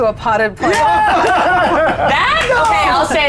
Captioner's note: players cheering